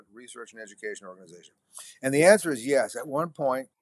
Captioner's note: none